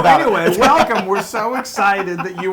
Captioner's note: laugh